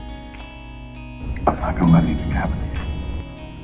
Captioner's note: voiceover